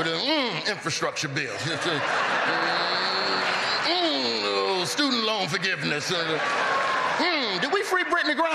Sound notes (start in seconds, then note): 5.8 laughter